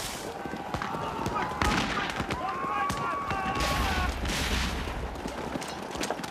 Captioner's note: soldiers shouting; guns firing